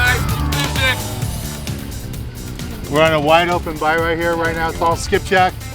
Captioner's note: background chatter